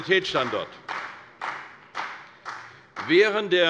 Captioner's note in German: Beifall bei der CDU und dem BÜNDNIS 90/DIE GRÜNEN